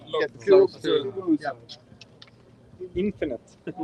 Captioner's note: speaking Swedish